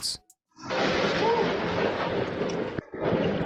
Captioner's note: ground explodes